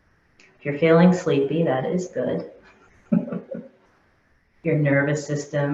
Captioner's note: chuckling